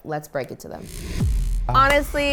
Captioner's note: neon sign buzzing